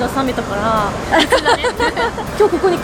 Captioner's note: laughs